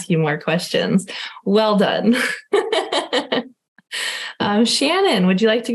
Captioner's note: laughing